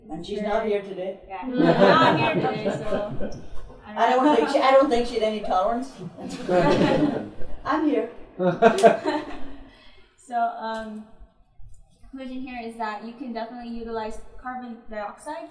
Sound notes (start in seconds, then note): 1.5 laughter; 9.3 laugher